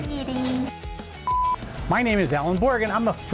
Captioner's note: beep